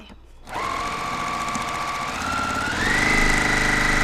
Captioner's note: machine sewing